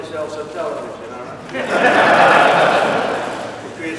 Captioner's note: laughter